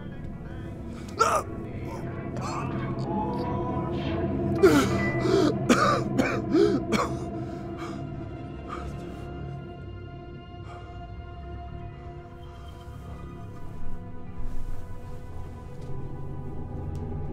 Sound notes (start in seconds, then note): 1.2 gasp; 4.5 coughing; 4.6 gasp